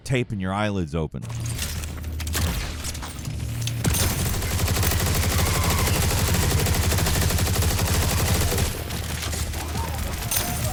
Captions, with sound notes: taping your eyelids open. (machine guns firing)